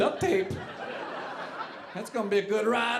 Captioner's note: audience laughing